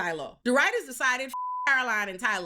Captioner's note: beep